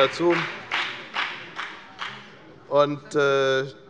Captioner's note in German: Beifall bei der FDP